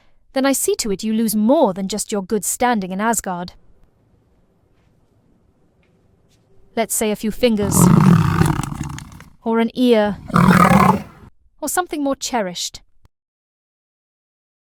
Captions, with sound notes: then I see to it you lose more than just your good standing in Asgard. Let's say… a few fingers. [cat roars] Or an ear. [cat roars] Or something more cherished.